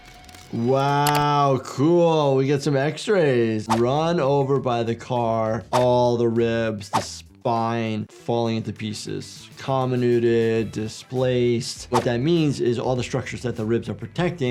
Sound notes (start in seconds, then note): 3.6 graphics whooshing; 6.9 graphics whooshing; 11.8 graphics whooshing